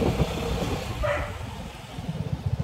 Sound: dog barks

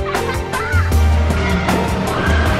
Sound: upbeat music; laughing; upbeat music

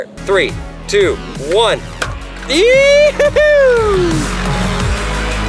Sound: whoops; majestic music

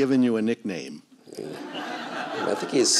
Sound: laughter

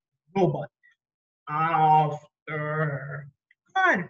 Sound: robot voice

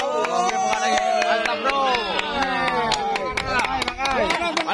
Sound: applause

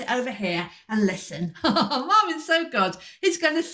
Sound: laughter

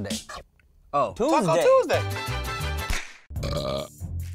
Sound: belches loudly

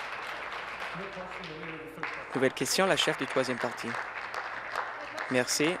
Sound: applause

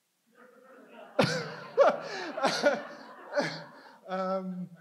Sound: audience laughs

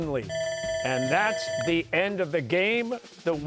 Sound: bell ringing

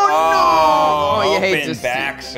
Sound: groan

